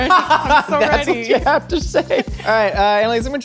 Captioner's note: laughs